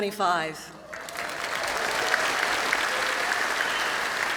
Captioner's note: applause